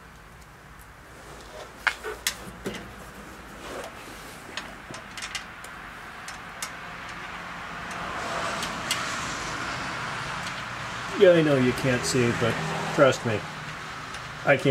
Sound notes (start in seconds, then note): 1.7 metallic noise and cars passing